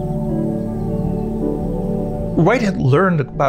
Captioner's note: birds chirping; serene music